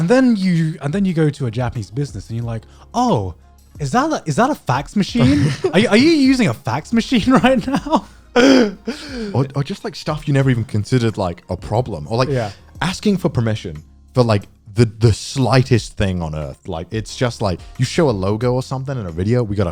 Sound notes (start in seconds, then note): 8.3 laughing